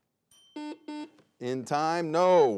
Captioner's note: bell dings; buzzer buzzes